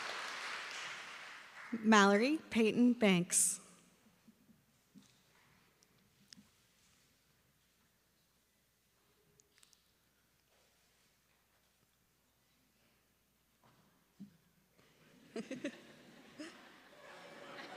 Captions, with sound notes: [applause] Mallory Payton Banks.